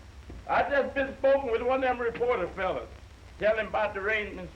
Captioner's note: none